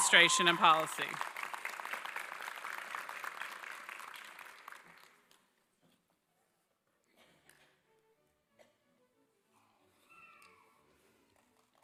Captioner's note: applause